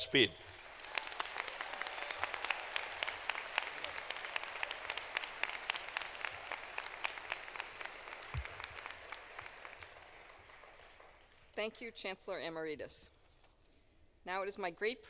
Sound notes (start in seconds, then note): 4.0 applause